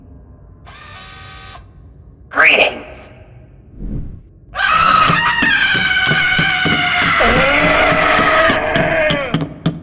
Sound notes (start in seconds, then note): 4.5 cast screams, as usual; 7.0 Barracks also screams